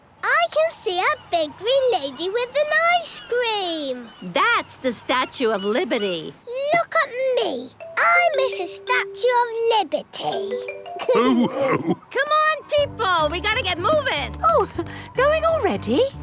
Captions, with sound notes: - I can see a big green lady with an ice cream! - That's the Statue of Liberty! - Look at me! I'm Mrs. Statue of Liberty! (all laughing) - Come on people! We got to get movin'. - Oh! Going already?